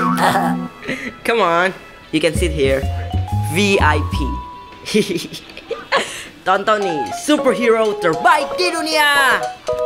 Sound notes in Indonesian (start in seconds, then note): 4.8 Hoho tertawa